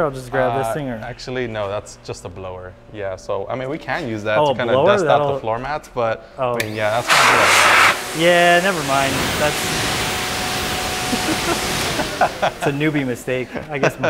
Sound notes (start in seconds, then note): 11.0 laughter